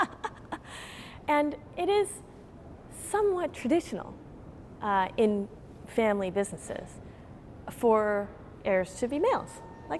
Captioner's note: laughter